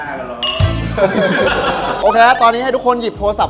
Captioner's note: laughs